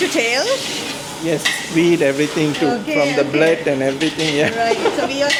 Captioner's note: laugh